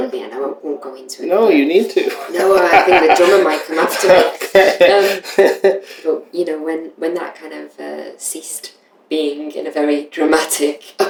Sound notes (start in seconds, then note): 2.0 laughter